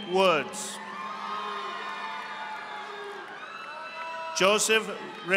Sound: audience applauding

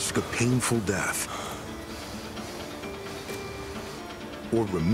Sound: panting

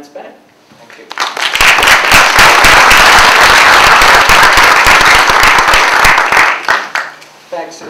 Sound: applause

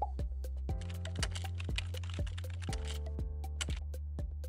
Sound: upbeat music; typing

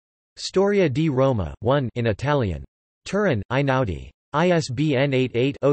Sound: in Italian

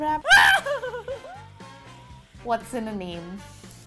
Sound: screaming

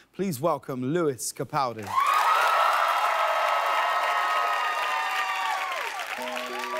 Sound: audience cheers

